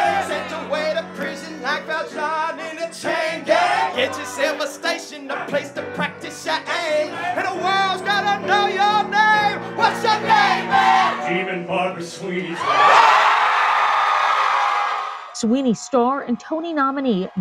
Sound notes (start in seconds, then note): 11.0 singing; 12.5 cheering